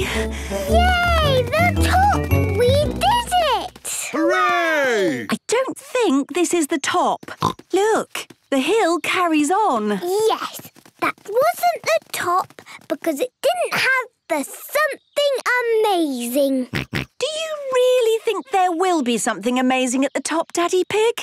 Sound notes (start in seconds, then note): 7.3 snorts; 16.5 snorts